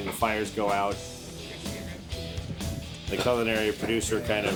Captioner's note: chatting